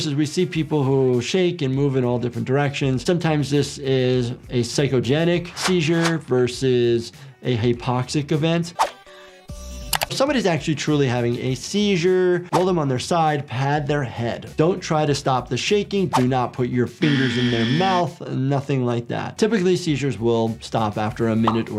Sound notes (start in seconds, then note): 7.4 energetic music; 8.3 air whooshing; 17.0 buzzer blaring